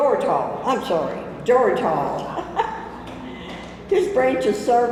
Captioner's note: chuckles